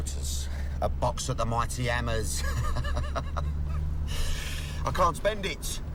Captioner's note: laughs